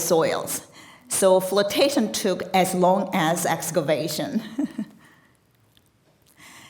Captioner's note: chuckles